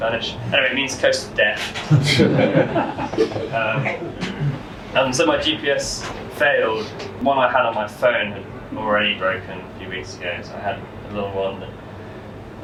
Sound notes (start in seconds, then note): 1.8 laughter